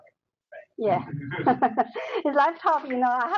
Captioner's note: laughing